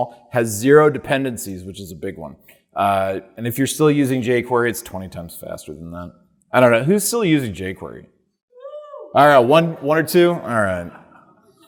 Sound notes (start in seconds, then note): 8.4 audience member cheering; 9.4 audience laughing